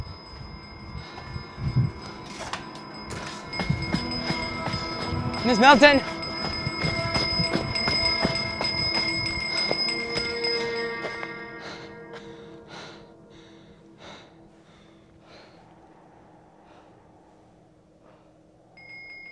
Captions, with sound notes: (Bell continues to ring constantly) (Suspenseful music) Miss Milton! (Bell stops ringing)